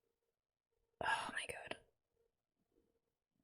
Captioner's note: whispers